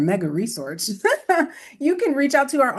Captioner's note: laughter